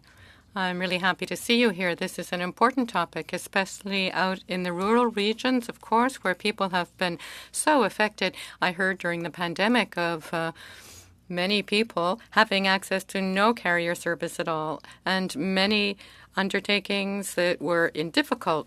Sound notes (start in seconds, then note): 2.0 speaking French